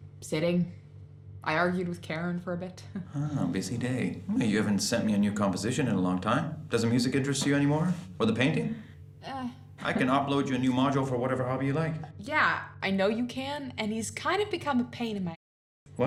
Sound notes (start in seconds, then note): 3.0 chuckle